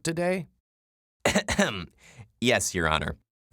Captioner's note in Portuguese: Tosse